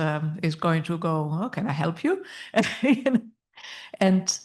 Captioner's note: laughs